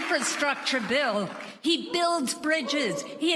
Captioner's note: applause